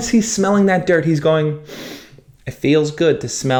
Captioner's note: sniffs